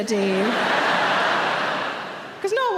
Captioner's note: audience laughing